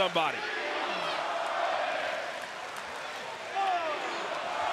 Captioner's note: audience chanting